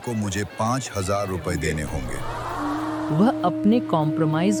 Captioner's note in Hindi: हैरान भीड़ की आवाज़